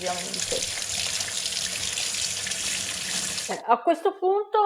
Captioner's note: water sound